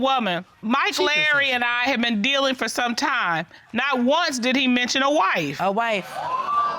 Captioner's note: judge dana reading